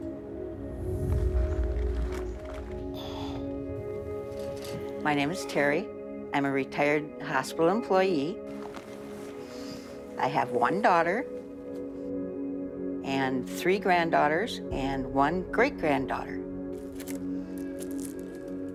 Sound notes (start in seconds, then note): 2.9 sighing